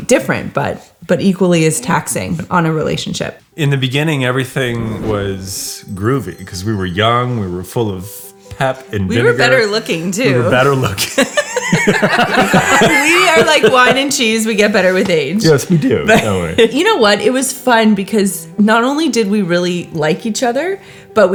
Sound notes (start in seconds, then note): 10.9 laughter